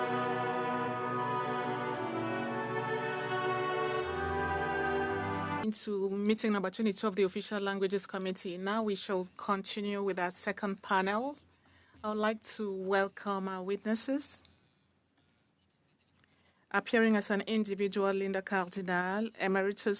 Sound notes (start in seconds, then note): 6.4 speaking French